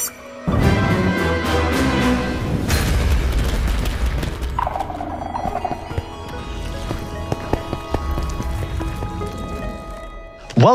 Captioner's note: axolotl chirps